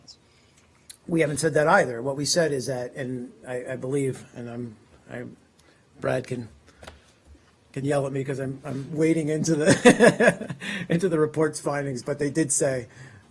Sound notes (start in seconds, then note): 9.6 laughter